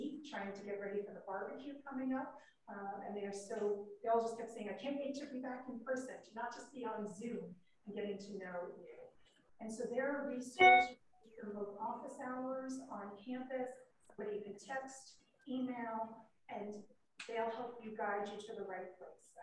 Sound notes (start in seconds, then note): 10.6 message alarm